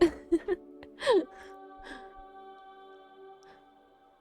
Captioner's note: chuckles